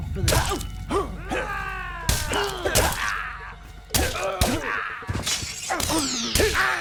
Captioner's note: combatants grunting; blows thudding